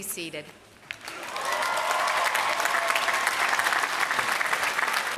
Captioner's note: applause